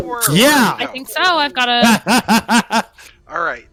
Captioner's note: laughs